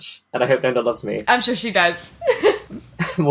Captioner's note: laughs